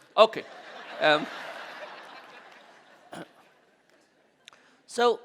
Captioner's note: audience laughing